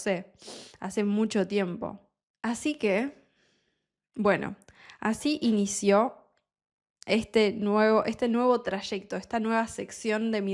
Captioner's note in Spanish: resoplido